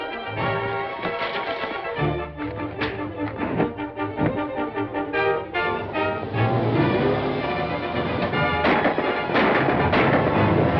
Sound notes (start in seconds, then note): 2.5 punch thuds; 8.4 gunshots